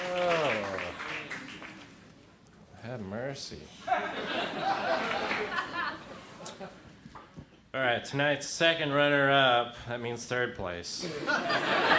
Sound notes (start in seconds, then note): 3.8 crowd laughs; 11.0 crowd laughs